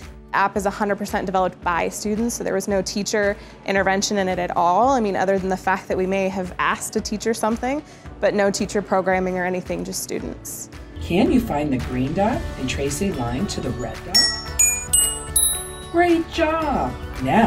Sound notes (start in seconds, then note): 14.1 app dinging